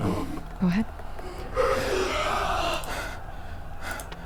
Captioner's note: creature wailing